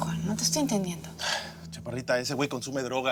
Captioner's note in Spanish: El exhala